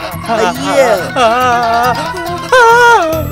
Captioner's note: Manav whimpers